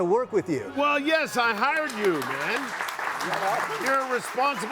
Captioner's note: audience applauding